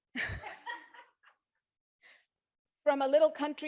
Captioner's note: crowd laughs